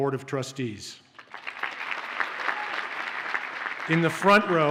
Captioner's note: audience cheers and applauds